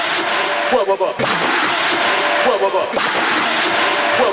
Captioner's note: water gun firing +1; water gun fired +2